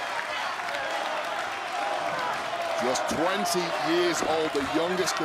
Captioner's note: crowd cheering